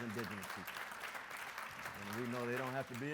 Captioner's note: audience applauds